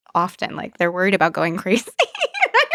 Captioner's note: laughs